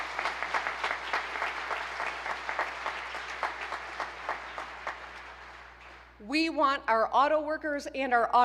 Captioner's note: applause